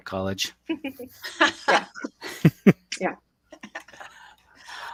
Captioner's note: everyone laughs